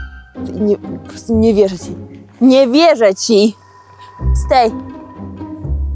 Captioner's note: playful orchestral music; speaking in foreign language